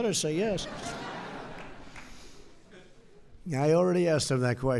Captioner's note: laughter